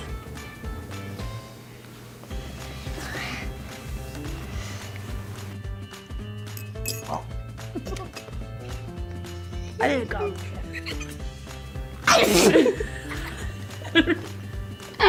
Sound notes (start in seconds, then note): 7.6 gags; 9.9 giggles; 12.0 spits loudly; 12.0 both laugh